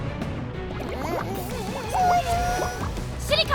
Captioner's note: whimpering